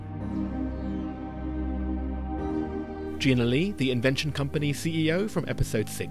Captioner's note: voiceover